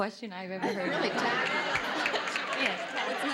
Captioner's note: audience laughing